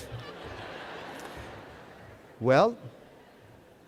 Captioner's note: laughter